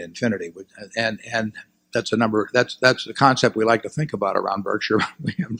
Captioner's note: laughs